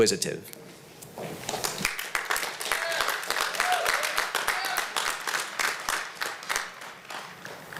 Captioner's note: applause